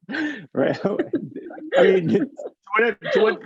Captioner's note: chuckling; laughing